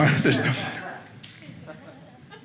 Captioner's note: audience laughing